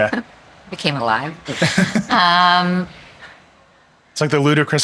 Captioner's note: chuckling